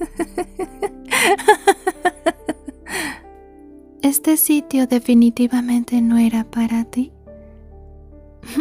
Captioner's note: laughs